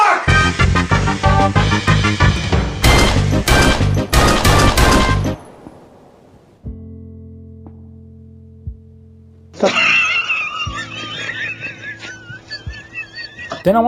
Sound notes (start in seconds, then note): 2.8 gunshot; 9.5 man laughing hysterically